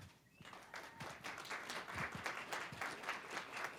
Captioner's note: applause